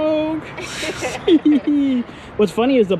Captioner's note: both laughing